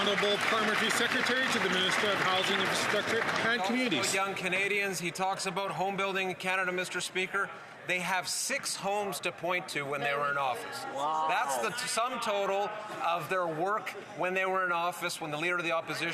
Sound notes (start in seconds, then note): 4.0 some Applause